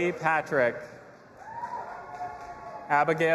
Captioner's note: audience applauding and cheering